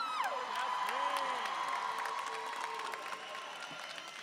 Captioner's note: applause and cheering